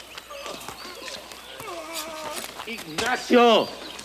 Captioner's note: gang members groan